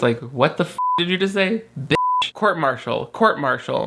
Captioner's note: beep